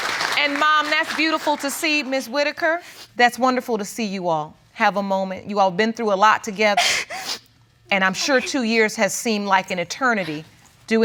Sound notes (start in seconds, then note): 4.8 whimpers